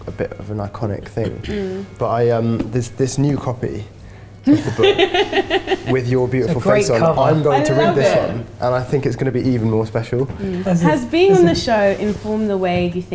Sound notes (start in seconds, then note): 4.5 laughs